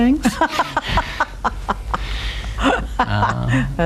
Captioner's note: chuckles